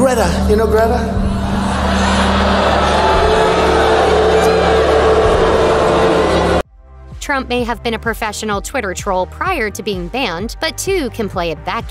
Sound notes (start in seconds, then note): 4.9 crowd booing